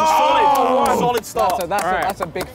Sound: clapping

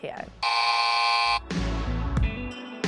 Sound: beep loudly; upbeat music

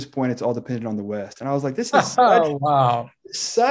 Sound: laughs

